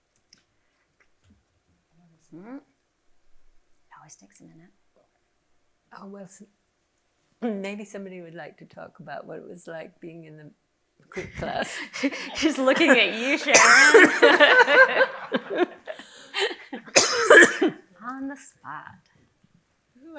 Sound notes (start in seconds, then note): 14.2 audience laughing; 17.0 coughing